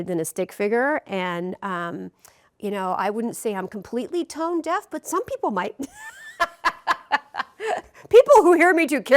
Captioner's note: laughs